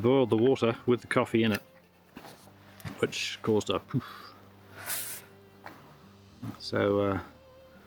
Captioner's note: poof